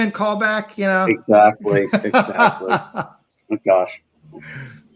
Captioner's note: laughing